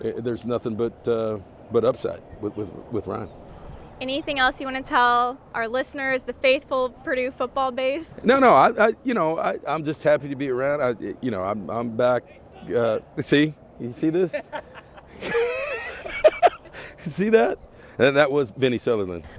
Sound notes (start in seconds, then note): 14.1 chuckles; 14.2 onlooker laughing